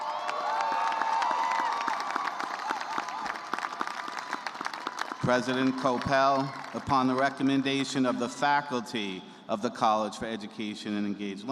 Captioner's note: cheers and applause